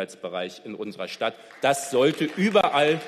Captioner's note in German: Beifall